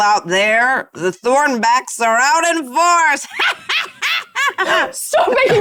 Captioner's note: laughs